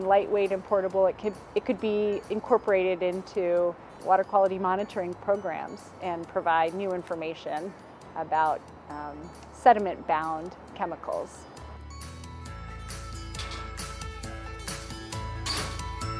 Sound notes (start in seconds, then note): 13.6 metal door clicking